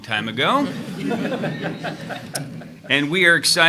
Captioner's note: attendees laughing